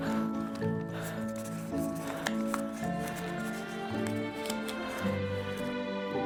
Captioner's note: Sean panting; pages rustling